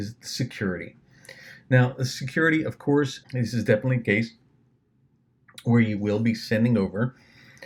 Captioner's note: swallows